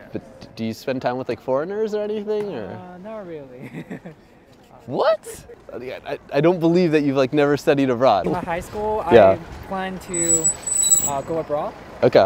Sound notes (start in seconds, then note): 3.6 nervous laughter